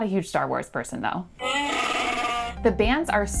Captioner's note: Chewbacca cries in anguish